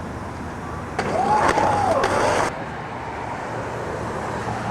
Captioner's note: crowd cheering